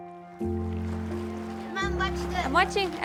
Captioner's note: gentle music; water sloshing